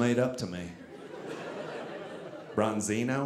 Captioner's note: audience laughing